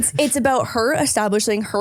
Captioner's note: laughing